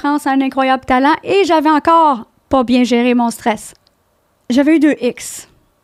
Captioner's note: in french